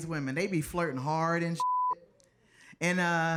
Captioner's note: beep